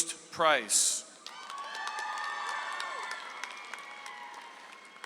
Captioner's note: audience applauds